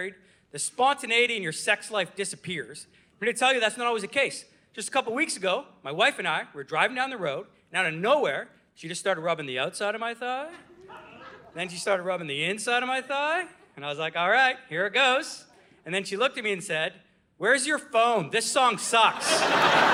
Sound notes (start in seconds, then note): 10.5 audience laughing; 18.7 audience laughing